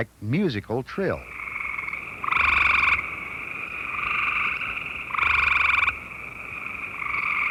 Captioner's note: gray treefrog call